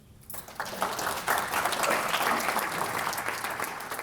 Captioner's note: audience applauds